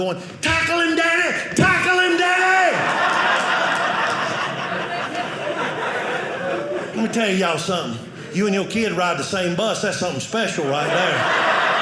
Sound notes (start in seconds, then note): 2.6 audience laughing; 10.5 audience laughing